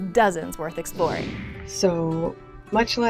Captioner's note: screen whooshing